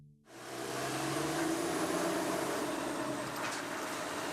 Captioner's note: engine growling